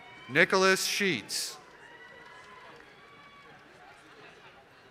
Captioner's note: applause